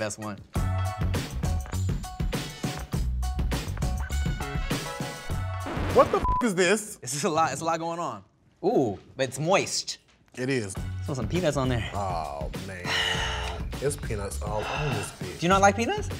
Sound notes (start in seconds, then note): 0.5 smooth hip hop music; 6.1 beep